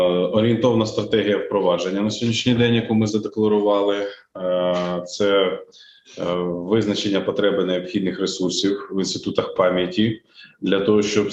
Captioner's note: foreign Language Spoken